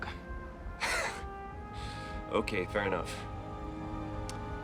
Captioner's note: laughs